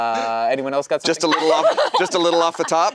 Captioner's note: laughing